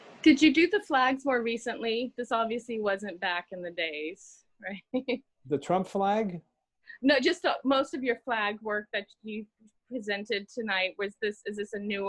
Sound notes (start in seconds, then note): 4.9 laugh